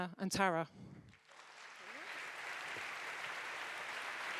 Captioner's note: audience applauding